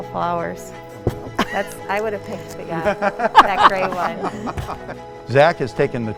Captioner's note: laughter